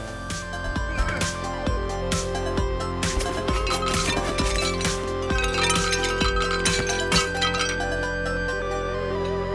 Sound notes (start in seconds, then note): 0.0 lively music; 3.0 items clinking